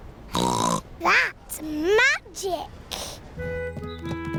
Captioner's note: snorts